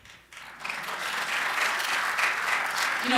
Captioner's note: applause